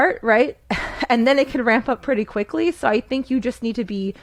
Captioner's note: laughs